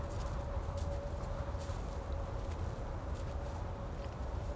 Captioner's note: none